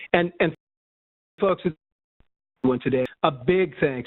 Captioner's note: audio trails off